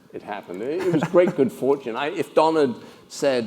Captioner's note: laugh